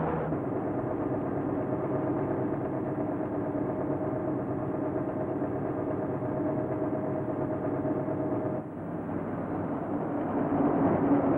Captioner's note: car rumbles; car rumbling